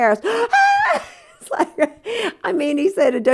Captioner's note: laughter